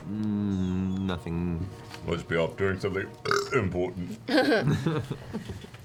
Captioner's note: belches